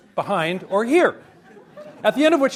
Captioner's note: audience laughs